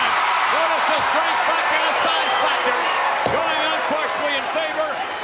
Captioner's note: crowd cheering; crowd cheering drowns out Vince